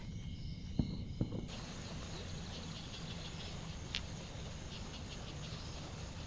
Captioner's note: water gurgles from the stream